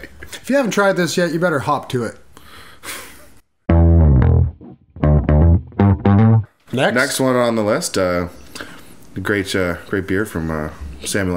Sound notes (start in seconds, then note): 2.4 long sigh